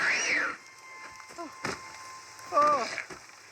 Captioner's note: zombie screams in pain and falls; zombie screams and shoots